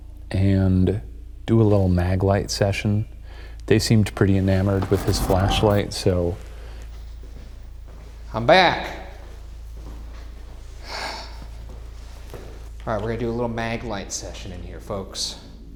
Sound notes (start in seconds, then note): 9.8 exhales sharply